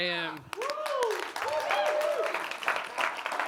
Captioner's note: applause